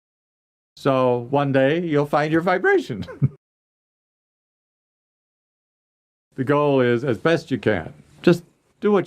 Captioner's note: laughs